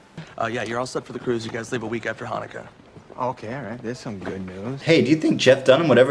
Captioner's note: set workers chatting